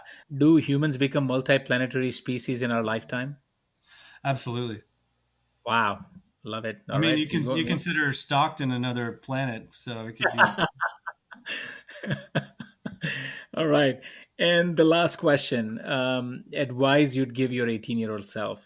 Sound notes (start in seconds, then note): 12.7 laughs